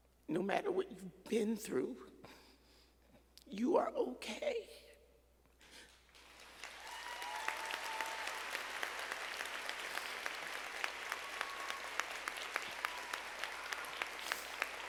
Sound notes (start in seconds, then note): 6.0 audience applauds